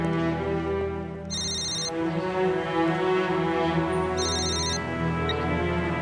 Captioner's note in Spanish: timbre de teléfono